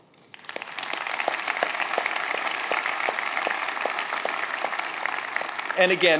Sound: applause

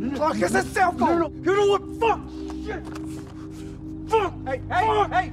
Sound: Clark cursing

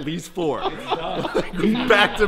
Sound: laughs

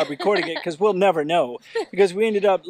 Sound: laughs

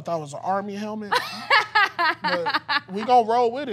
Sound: laughing

